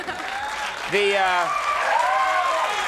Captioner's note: audience cheering and clapping